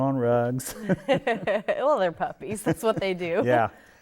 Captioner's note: chuckles